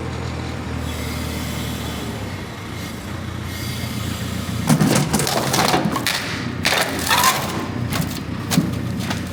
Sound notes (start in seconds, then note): 4.6 metal crunches